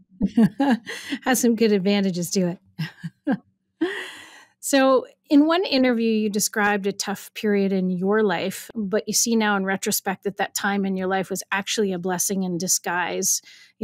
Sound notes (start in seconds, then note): 0.0 chuckles; 2.8 laughs